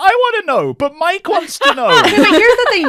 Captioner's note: laughter